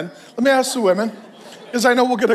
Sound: congregation laughs

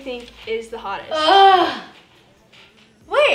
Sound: Annie groaning

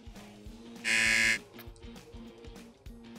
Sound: buzzer

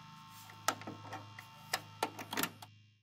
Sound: tape Recorder stops

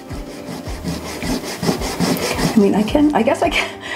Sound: eraser rubbing

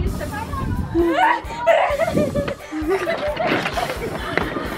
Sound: screaming and laughing

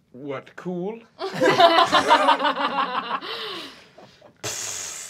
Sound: laughing

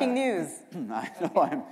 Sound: chuckle

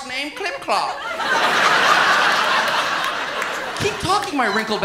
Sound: laughter

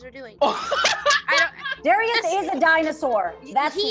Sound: laughs

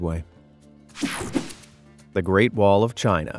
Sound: screen whooshing

